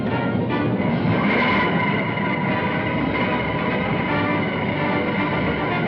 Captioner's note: rumbling